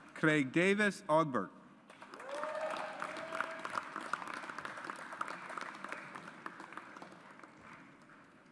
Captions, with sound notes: Craig David Oberg. (AUDIENCE APPLAUDS)